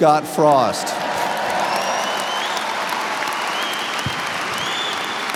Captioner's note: audience cheers and applauds